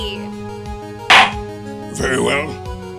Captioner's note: gavel slams!